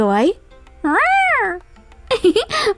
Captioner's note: Joy meows; giggles